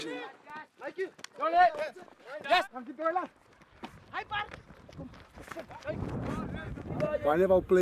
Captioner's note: shouting in afrikaans